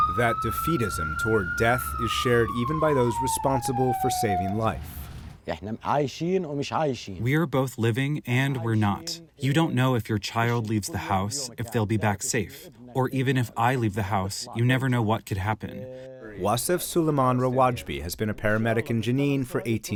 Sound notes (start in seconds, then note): 7.8 through translator